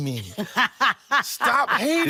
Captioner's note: laughing